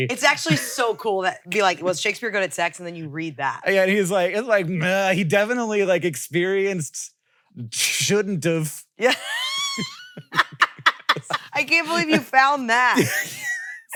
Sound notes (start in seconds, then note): 9.0 laughs